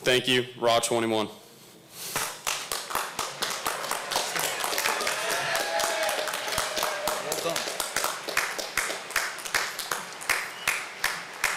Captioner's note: applause